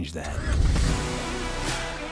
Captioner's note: car starts